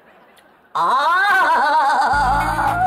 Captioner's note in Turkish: Ağlama sesi